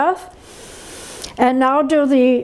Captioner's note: inhales